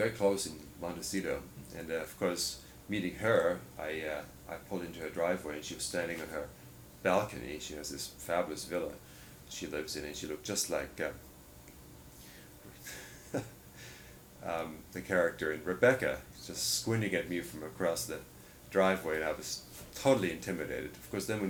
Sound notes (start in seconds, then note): 12.8 laughs